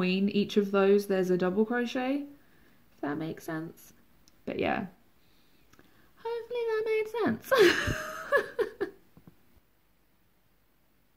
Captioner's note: laughs